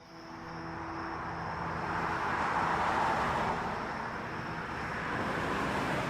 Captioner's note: traffic passes; dramatic music